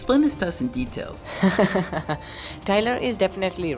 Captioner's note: laughs